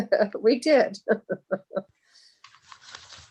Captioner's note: chuckles